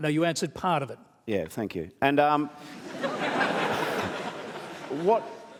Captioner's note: laughter